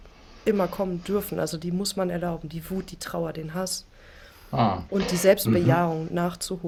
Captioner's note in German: räuspern